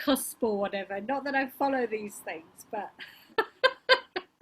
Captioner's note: laughs